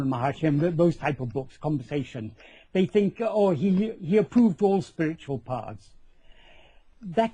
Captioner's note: conversation